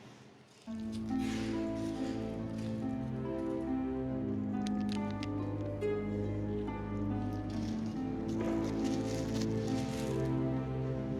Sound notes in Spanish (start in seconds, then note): none